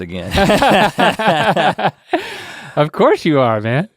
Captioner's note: laughing